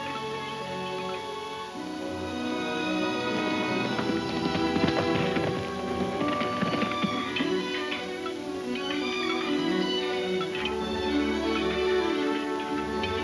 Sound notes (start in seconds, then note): 2.3 hoof beats thundering; 6.6 metal clinking